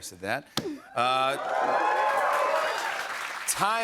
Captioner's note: cheers and applause